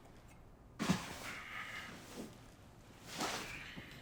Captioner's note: sighs